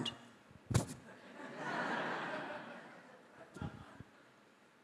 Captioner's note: audience laughing